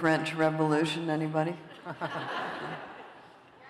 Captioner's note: laughter